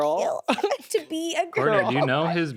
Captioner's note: laughs